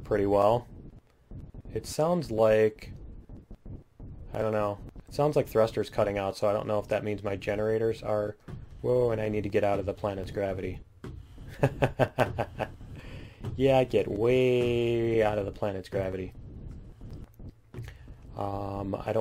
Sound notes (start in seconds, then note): 11.5 laughs